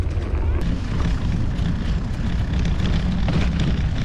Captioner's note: bike rumbling